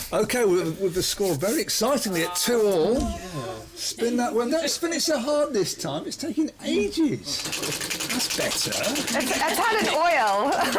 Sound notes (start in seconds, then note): 7.4 wheel spinning